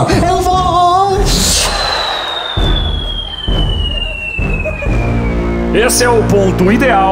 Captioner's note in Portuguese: assovio